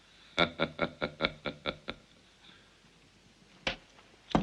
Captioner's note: يضحك